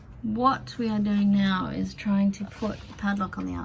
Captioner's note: none